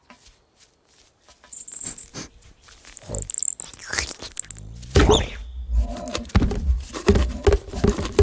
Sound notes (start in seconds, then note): 0.0 grass rustling; 1.7 sniffing; 2.9 slurping